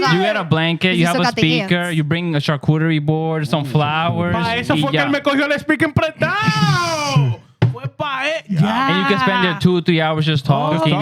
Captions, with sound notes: You get a blanket, you have a speaker, you bring a charcuterie board, some flowers. (Speaking Foreign Language) And you can spend two or three hours just talking.